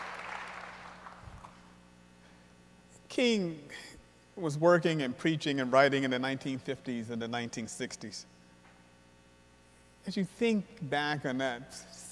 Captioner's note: applause